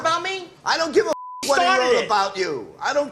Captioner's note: beep